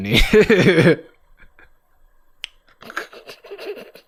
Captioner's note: laughs